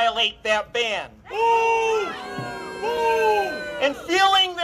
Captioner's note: boos from crowd